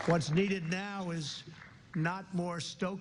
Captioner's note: applause